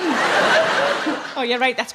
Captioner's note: audience laughing